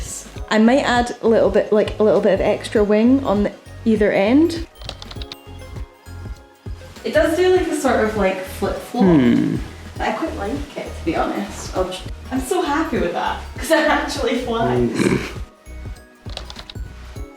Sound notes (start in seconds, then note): 14.8 pitiful snort from behind the camera